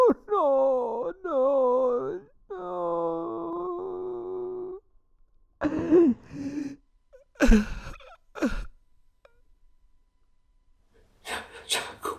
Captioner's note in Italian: piange